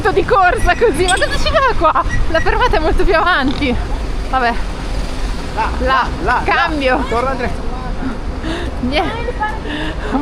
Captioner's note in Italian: risate